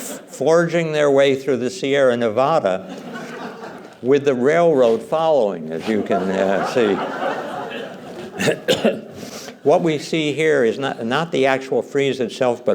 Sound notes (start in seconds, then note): 5.9 laughter